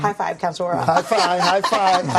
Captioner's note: laughter